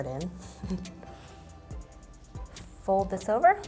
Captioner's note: chuckles